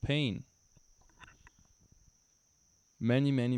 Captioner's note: silence